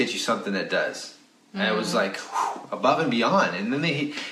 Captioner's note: exhales